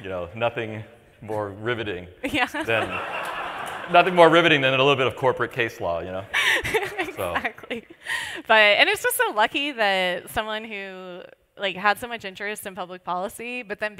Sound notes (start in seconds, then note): 2.6 laughter; 6.4 laughs